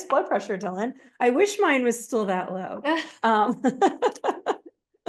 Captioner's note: laughs